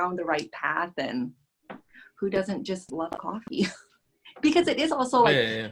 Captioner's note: laughs